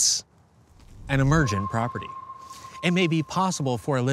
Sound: spacious ping

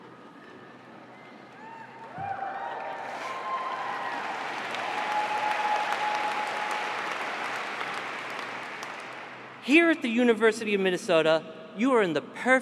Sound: applause

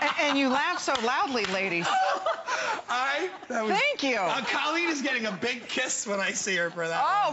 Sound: laughter

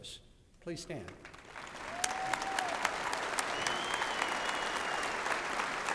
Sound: applause and cheering

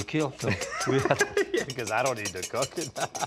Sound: laughs

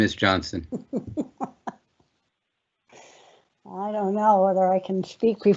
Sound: laughing

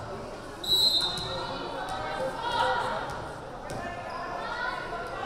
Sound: whistle blaring

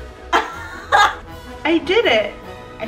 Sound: laughing

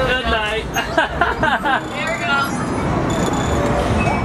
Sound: laughing

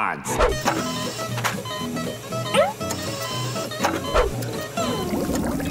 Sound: beeping

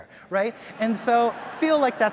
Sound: audience laughs

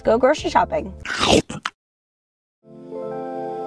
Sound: crunching; slow bright music

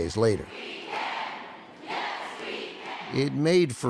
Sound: chanting

